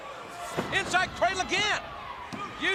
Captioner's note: crowd cheering